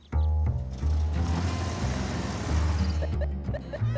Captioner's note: honking; beeping